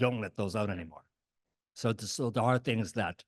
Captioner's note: none